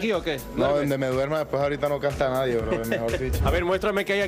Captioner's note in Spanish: risas